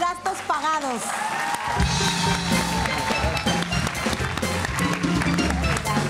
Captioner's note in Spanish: Ovación